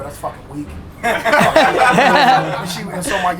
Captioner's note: group laughter